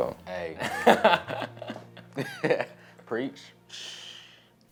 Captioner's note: laughter